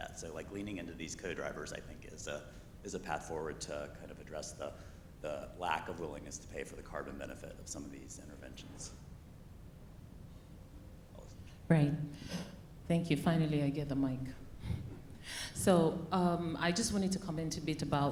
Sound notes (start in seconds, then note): 11.5 speaks faintly